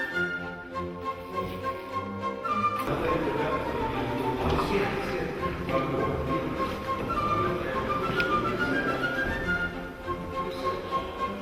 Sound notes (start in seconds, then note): 0.2 lighthearted orchestral music; 3.2 men speaking in the Russian language